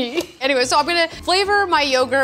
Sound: laughs

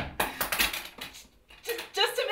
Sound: knock on door; scissors clatter to floor

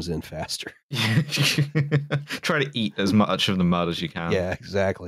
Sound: laughs

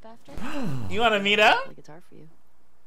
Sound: gasping

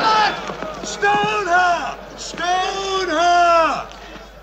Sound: crowd noise

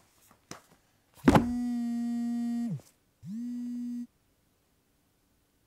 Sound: phone Vibrates

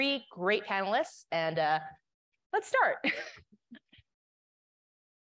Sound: laughing

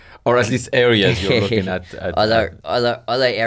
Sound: laughs

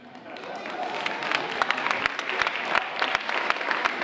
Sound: audience applauding

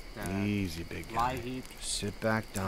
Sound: quietly

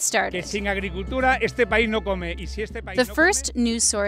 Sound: speaking in foreign language

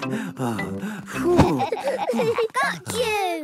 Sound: all laughing; panting

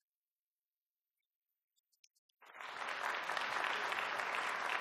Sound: applause

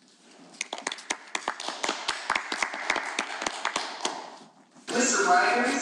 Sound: panelists applauding

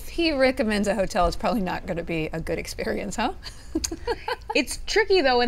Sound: laughs

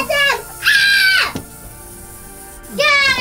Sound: screams

